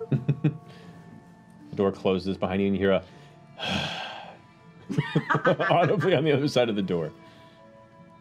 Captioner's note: heavy sigh